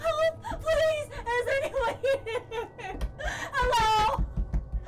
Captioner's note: sobbing